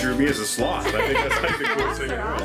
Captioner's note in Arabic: يضحك